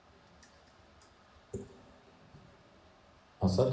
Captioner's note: clicks